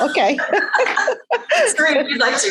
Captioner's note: laughing